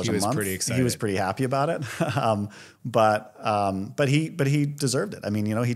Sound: chuckles

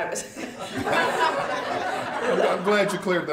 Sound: laughter

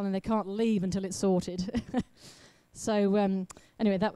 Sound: laughs

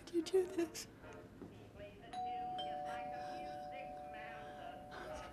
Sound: doorbell rings

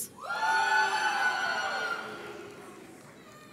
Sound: audience cheers

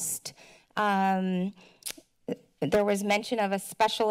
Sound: tongue clicks

